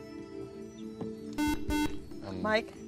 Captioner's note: beep